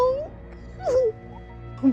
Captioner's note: crying